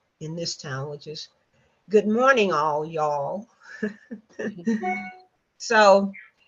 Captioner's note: laughs